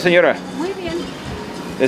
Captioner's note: female Vendor off screen in Spanish